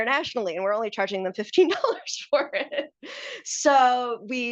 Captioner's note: laughs